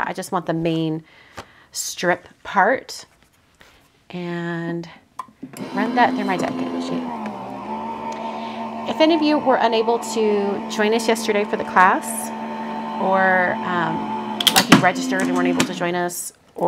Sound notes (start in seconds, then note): 7.2 machine whirring